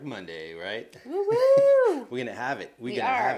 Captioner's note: exclaims